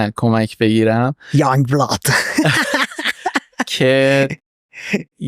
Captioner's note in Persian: خنده